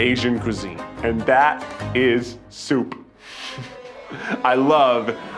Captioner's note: laughs